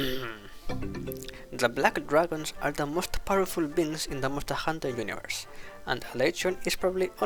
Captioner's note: clears throat